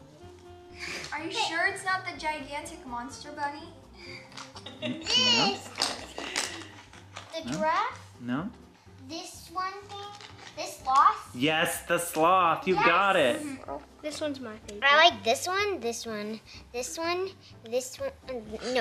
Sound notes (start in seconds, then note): 4.3 laughing; 5.0 baby noises